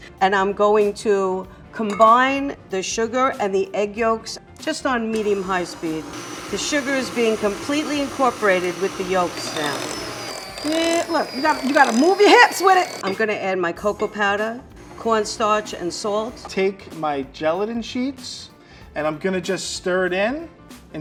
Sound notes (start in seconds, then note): 10.2 mixer whirring